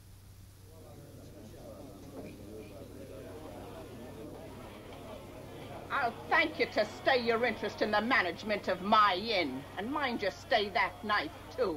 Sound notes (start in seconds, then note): 0.7 chattering